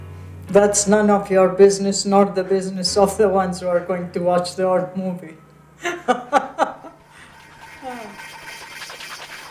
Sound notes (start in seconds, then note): 5.8 mother laughing